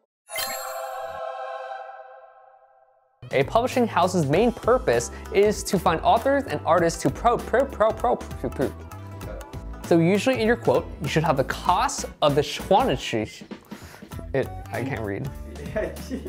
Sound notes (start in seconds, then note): 7.3 stutters